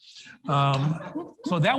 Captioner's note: audience laughs